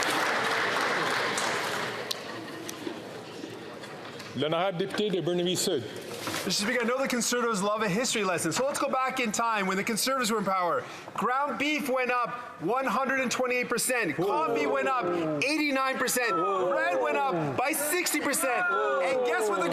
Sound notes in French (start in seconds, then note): 8.2 voix de l'interprète